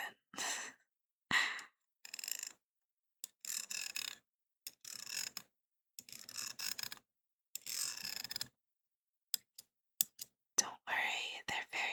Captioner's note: slicey tool noises